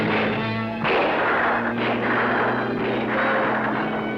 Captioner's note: gunshots